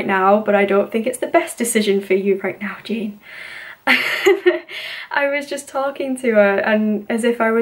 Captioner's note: laughs